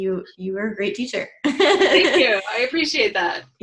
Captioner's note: laughs